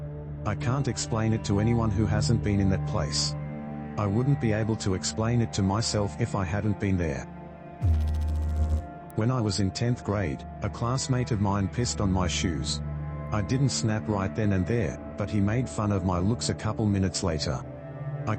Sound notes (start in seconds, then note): 7.8 electrical noise